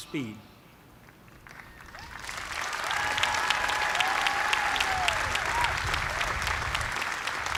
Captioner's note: cheers and applause